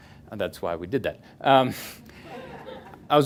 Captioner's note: they laugh